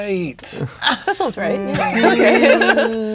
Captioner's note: chuckles